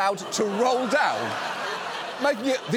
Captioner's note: studio audience laughs